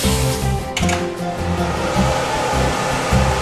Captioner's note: hair dryer whirring